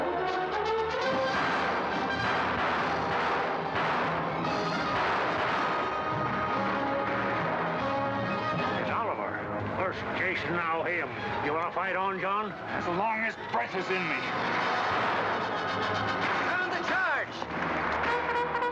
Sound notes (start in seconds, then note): 0.0 dramatic music; 1.0 gunfire; 1.3 dramatic music; 18.0 bugle call